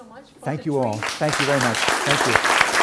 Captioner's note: audience clapping